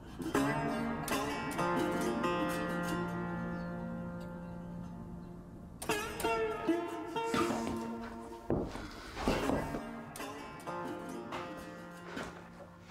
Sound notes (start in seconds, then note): 7.3 footsteps thudding